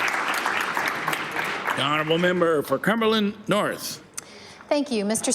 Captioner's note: applause